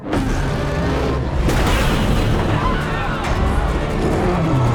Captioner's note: kong roars